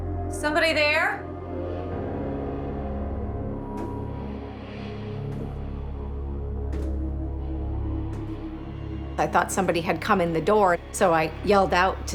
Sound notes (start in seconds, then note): 6.6 footsteps